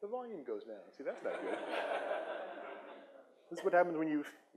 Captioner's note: audience laughs